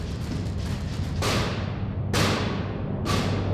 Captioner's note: banging